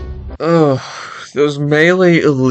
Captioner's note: sighs in annoyance